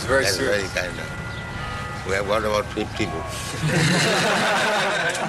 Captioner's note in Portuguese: risadas